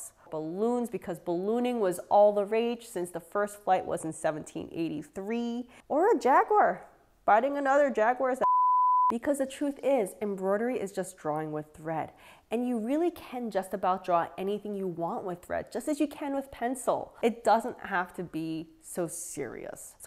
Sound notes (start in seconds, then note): 8.4 beep